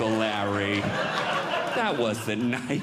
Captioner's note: audience Laughing